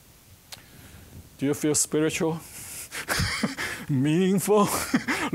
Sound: chuckling

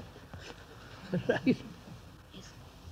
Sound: laughs

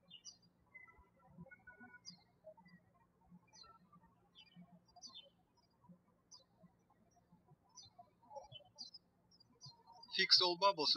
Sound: birds chirping

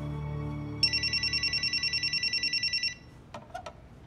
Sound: phone ringing

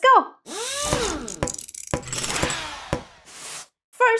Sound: motor spinning

